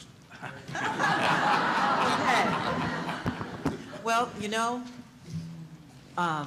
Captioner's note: laughter